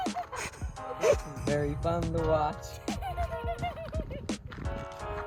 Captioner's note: laughs